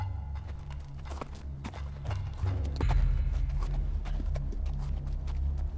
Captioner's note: hoofbeats